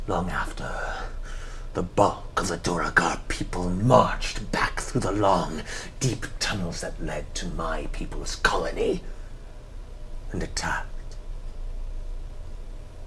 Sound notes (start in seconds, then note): none